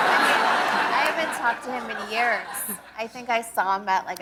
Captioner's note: laughter